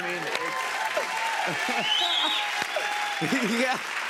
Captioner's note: cheers and applause